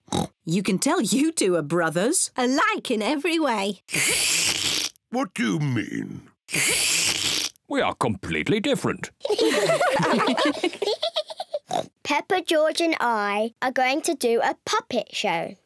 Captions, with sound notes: (OINKS) You can tell you two are brothers! (SLURPS) Alike in every way. (SLURPS) What do you mean? (SLURPS) We are completely different. (ALL GIGGLE) (OINKS) Peppa, George and I are going to do a puppet show.